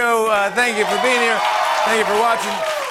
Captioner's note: cheers and applause